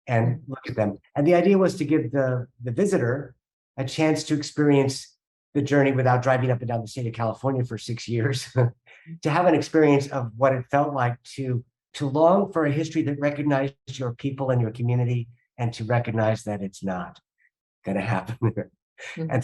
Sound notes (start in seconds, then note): 8.7 chuckling